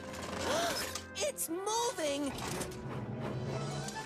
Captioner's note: gasps